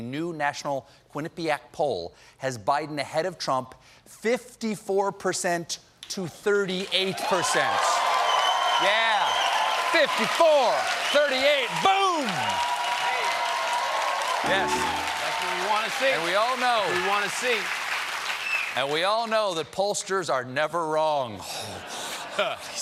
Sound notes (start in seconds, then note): 7.8 cheers and applause